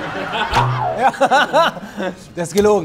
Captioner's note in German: Lachen; Boing